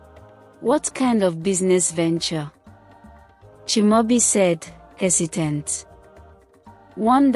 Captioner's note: hesitant